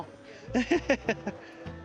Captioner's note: laughs